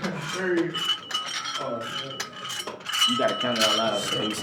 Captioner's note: weights clanking